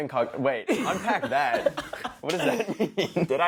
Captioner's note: laughs